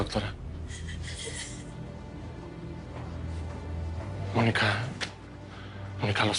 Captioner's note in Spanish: Mónica solloza